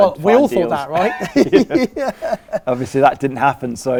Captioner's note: laughs